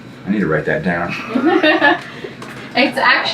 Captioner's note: laughing